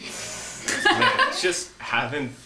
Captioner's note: woman laughing